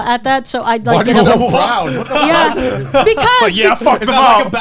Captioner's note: all laughing